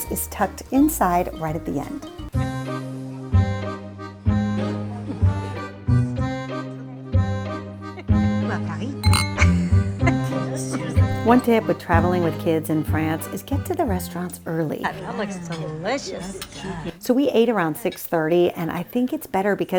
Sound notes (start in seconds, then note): 2.5 french accordion music; 9.0 glass clinks